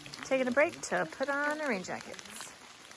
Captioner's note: rain drizzling